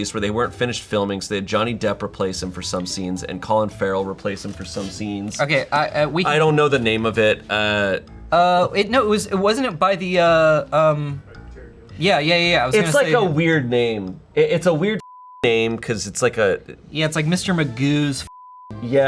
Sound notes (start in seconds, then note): 15.0 beep; 18.3 beep